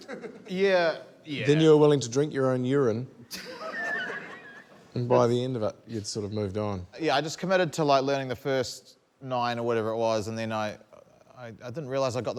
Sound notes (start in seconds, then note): 5.7 laughter